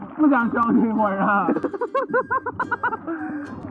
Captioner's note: classic villain laughter